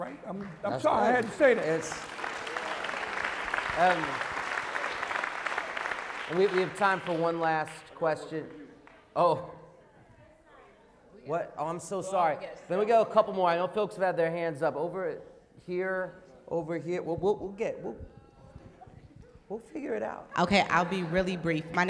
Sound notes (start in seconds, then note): 1.3 applause